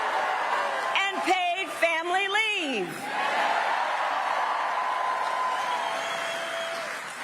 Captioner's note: applause